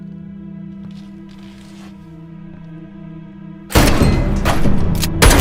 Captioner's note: suspenseful music; footsteps pattering; door bangs